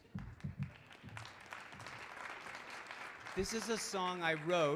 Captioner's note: audience clapping